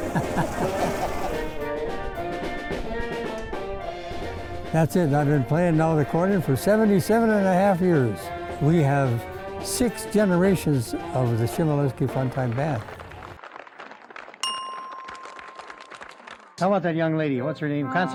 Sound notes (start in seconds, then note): 0.0 men continue laughing; 1.8 polka music; 12.2 television applause; 14.4 bell dings